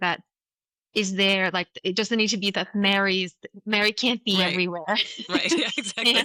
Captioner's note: laughter